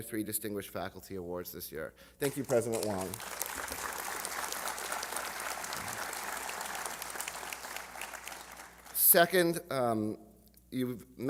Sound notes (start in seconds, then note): 6.6 applause